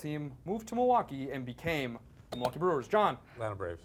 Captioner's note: beep